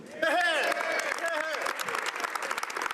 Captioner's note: applause